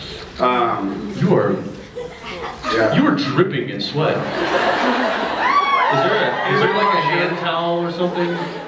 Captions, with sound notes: Um... You are... Yeah. You are dripping in sweat. [scattered laughs, screams] Is there a -- is there like a hand towel Anybody want my shirt? [scattered screams] or something?